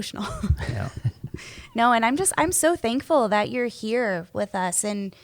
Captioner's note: laughs